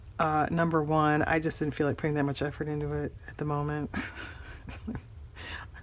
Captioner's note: laughs